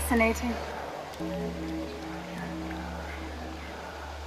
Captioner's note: bell tolling; mysterious whisper chanting